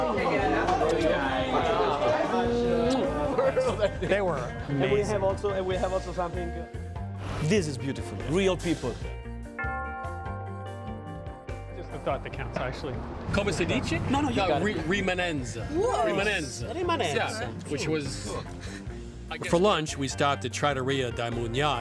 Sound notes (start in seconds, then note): 2.3 kissing; 9.5 bell tolling; 14.1 speaking Italian